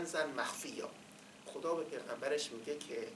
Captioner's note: quoting in Arabic